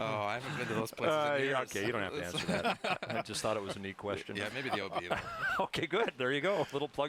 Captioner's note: laughter